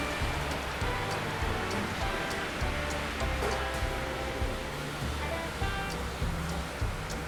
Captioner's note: trains whir; upbeat music continues